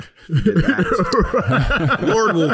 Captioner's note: laughing